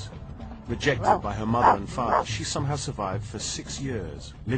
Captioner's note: barking